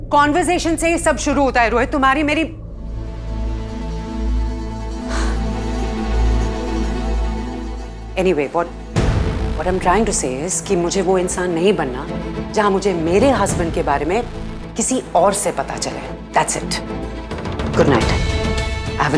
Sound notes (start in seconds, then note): 5.0 Ananya sighs